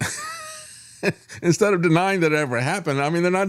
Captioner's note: laughs